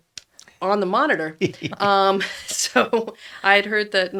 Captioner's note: laughs